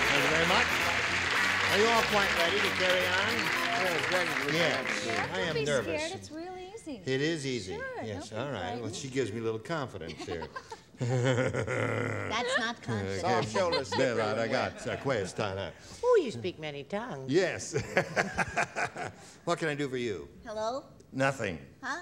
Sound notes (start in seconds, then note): 14.0 foreign language